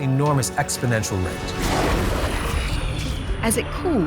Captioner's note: explosion